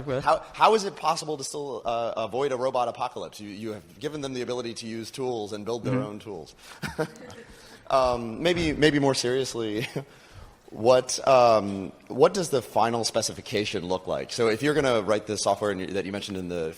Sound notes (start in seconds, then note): 6.8 laughter